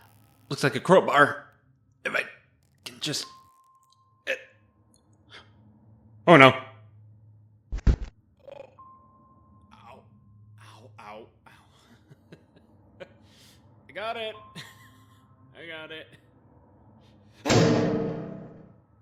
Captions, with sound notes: Looks like a crowbar if I can just get- oh no [Sound of impact] ow ow ow ow I got it! I got it. [BANG]